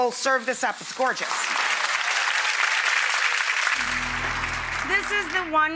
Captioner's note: audience applauds